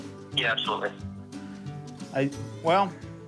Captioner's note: on phone